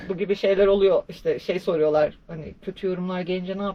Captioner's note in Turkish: boğazını temizler